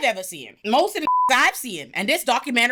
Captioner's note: beep